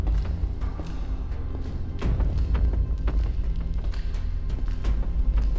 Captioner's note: footsteps pattering